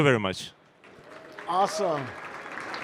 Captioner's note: applause